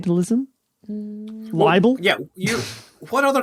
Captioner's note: snickers